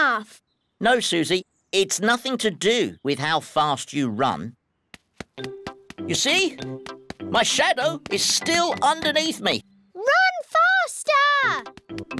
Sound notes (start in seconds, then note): none